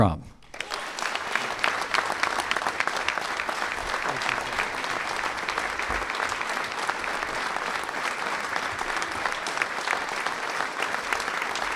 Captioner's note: applause